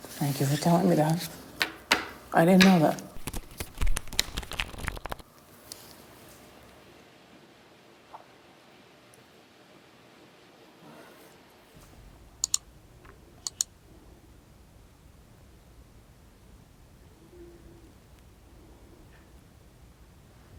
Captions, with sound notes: Thank you for telling me that. I didn't know that. (cards flipping) (mouse clicking)